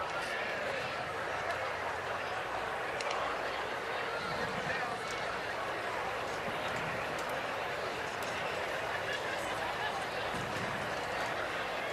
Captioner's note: crowd noise